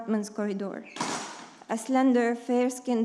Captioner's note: object thuds